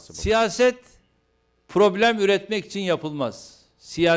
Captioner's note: non-english speech